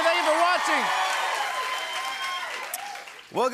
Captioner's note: cheering and applause